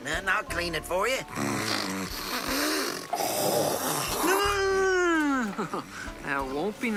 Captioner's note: snorting, hacking